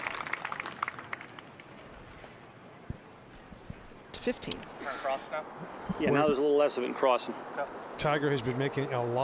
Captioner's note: applause